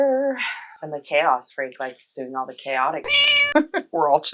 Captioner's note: meow